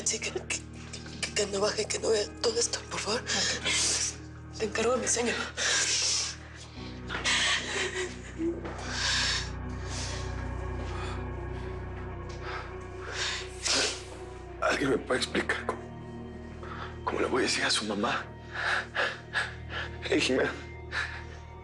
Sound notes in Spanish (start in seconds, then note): 7.0 Sollozos